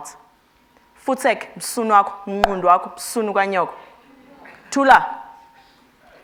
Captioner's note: speaking foreign language